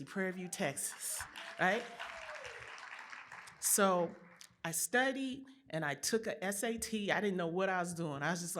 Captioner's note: applause